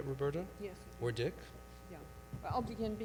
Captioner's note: voiceover